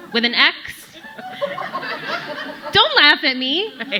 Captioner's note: audience laughing